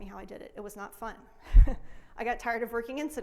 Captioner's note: laughs